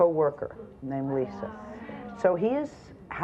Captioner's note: audience gasps